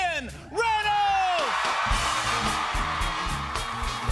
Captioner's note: cheers and applause